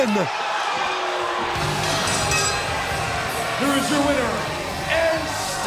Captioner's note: bell ringing